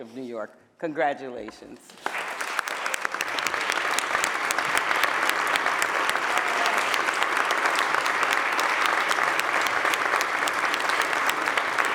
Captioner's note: applause